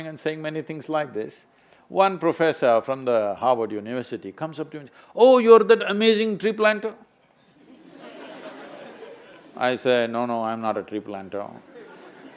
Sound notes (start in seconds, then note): 7.6 laughter